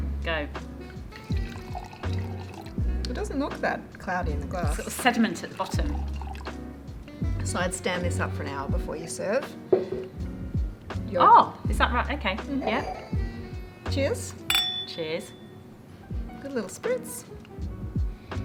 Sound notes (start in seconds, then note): 1.2 wine pouring